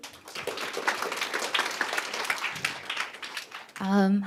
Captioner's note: applause